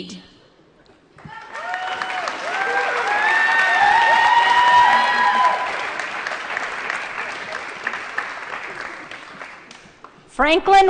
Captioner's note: applause & Cheering